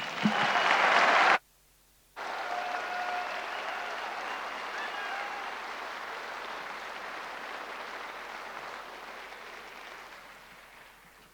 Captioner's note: applause